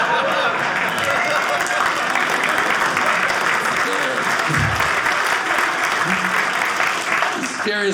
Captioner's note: audience cheering